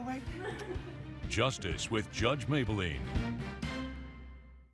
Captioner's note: soft laughing